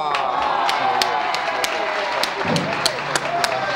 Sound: audience applause

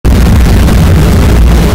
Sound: kaboom

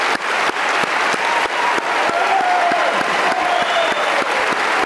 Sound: audience cheering continues

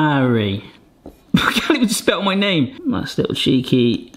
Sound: laughs

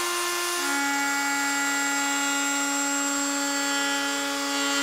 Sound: saw brattling

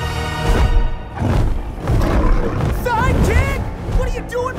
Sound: gargoyle snarling

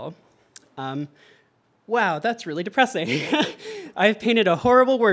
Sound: laughs

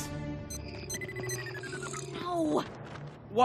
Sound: PMR beeping weakening

